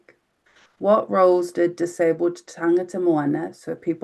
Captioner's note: speaking in foreign language